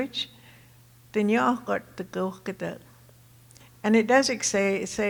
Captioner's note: speaking Tohono O'odham